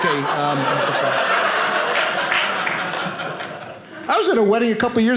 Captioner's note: audience laughing